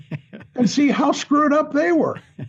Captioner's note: chuckling